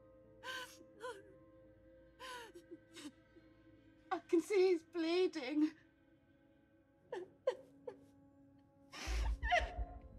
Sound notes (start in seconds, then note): 6.7 blonde sobbing